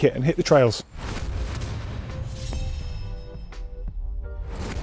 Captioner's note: whooshing